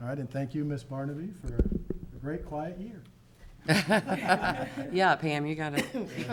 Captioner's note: everyone laughing